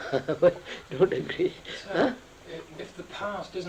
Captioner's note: laughs